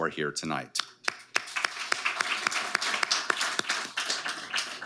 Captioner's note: audience applauding